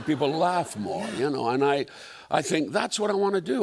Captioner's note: laughter